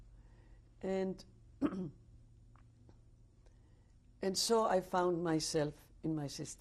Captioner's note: pauses for 3 seconds